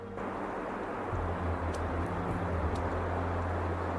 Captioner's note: water gushing